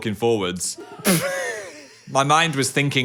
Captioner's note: both laugh